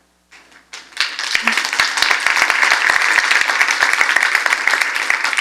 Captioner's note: applause